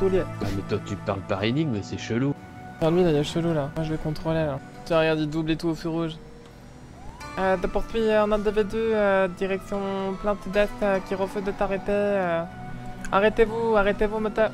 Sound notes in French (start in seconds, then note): none